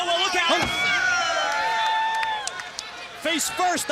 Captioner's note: crowd chatter